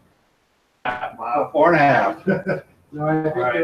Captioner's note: chuckles